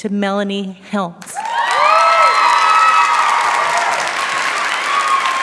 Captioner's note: cheering, applause